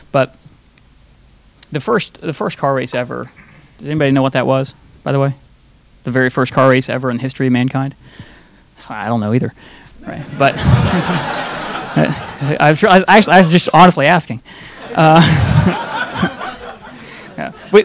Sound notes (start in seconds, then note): 10.1 audience laughing; 14.8 laughing; 14.8 audience laughing